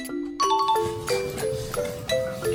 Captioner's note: sound of a ringing bell